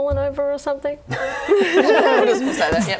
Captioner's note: laughs